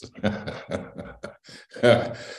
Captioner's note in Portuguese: Risos